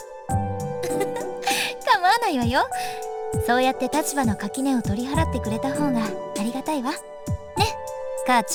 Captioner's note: giggle